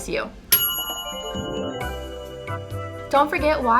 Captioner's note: timer dings